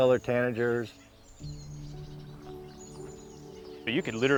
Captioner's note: birds chirp